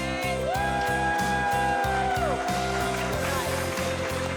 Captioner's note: cheers, applause